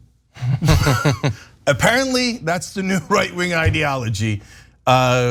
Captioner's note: laugh